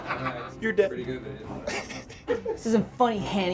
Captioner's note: group laughs; chuckles